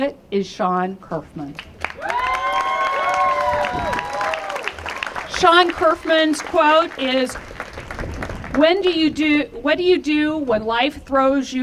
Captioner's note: applause